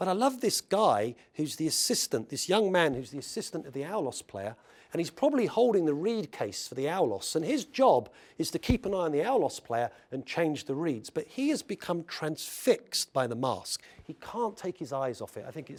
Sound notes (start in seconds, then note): none